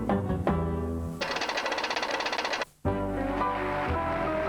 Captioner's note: rhythmic music; knocking keys; relaxing music; sounds of camera flashes